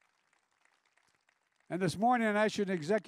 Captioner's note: applause